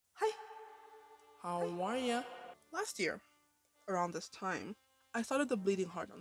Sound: voiceover

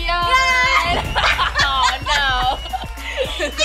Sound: laughing

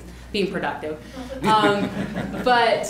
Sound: laughs

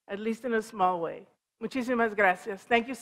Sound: foreign language

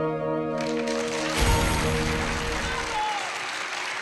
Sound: people clapping and cheering

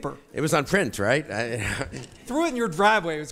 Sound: chuckles

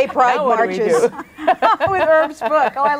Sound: group laughs

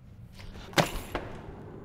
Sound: purse fell

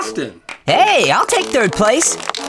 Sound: applause

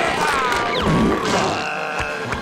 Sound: groaning

